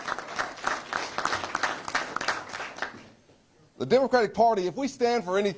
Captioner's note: applause